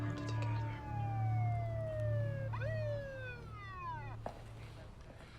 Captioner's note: police siren wailing